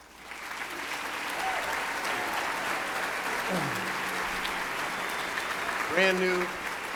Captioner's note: applauding; cheering